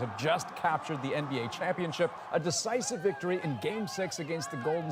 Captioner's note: cheers and Applause